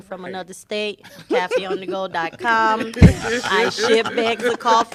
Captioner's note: laughter